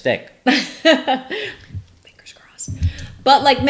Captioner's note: laughs